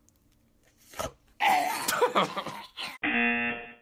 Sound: choking noises; buzzer

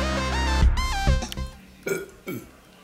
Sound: burps twice

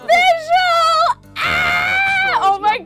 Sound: gasps; Kelsey screams

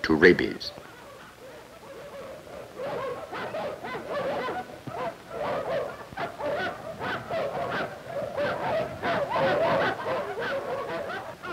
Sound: dogs barking

